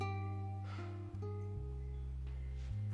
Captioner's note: menghela napas